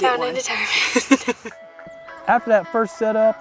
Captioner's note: laughter